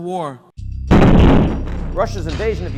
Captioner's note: bombs exploding